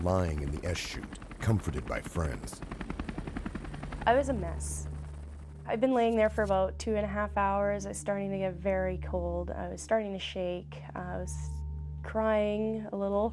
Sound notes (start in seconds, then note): 7.2 helicopter blades turning rapidly; 9.4 voiceover